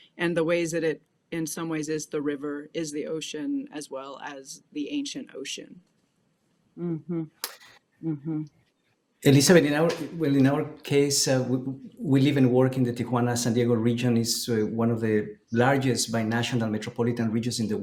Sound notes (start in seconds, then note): 9.4 speaking a foreign language